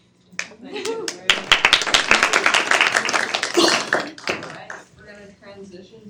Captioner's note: students clap